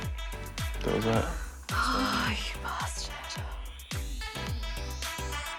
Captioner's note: exhales